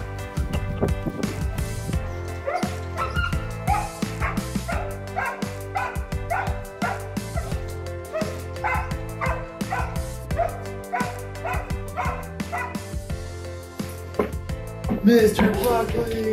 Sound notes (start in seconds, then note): 2.6 dog barking; 2.6 upbeat music